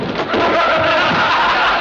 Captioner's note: objects banging; all laughing